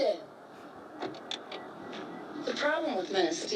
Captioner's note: car door clicks